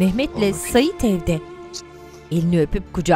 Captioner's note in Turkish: Öpme sesi